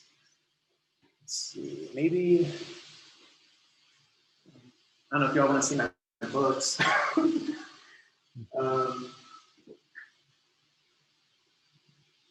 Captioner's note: laughs